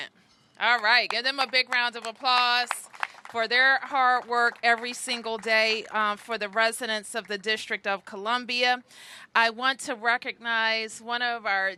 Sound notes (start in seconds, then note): 4.2 applause